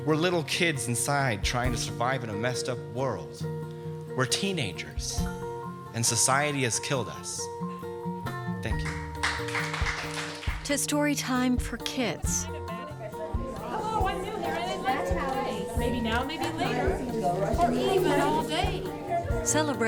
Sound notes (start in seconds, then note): 8.7 applause; 12.3 children chatting